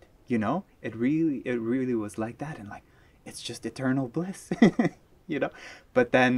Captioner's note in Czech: smích